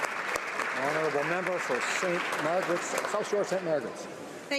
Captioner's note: some Applause